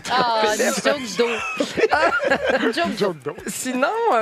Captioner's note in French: rires